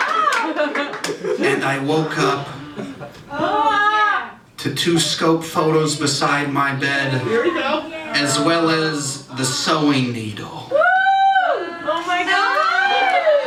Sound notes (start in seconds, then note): 10.7 audience Reaction